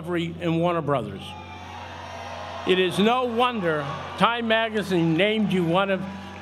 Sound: applause

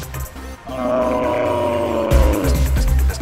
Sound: Charles screams

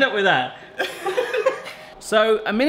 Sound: laughing

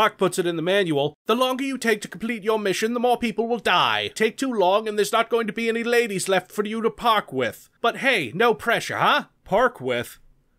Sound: Reads in Doc's accent

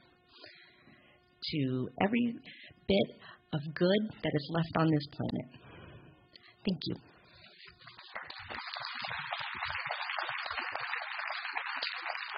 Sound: applause

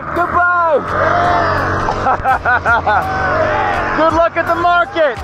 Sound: laughing

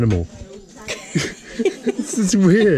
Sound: laughing

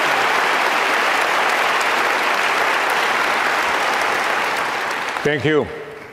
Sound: audience cheering continues

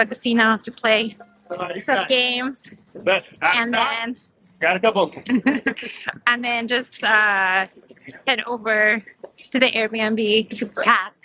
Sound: laughs

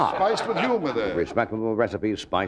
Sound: audience laughing

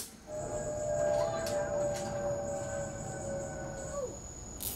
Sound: plane engine running

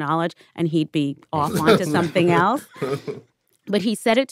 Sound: laughter

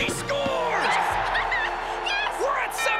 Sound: crowd cheers; laughs

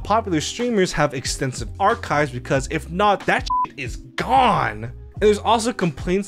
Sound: beep

